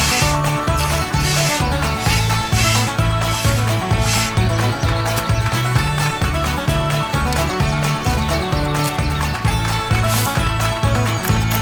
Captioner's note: applause